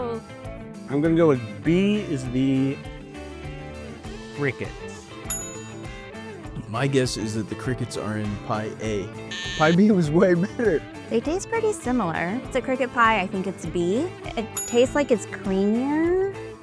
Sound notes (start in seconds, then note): 5.2 ding!